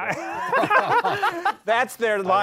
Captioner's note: laughter